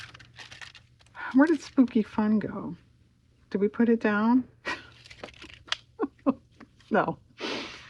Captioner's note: laughs